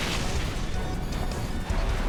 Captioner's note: lightning crashes, thunder rumbles